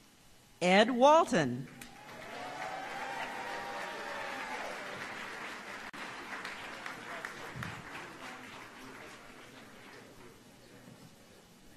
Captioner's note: applause